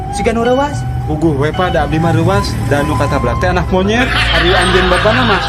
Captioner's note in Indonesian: tertawa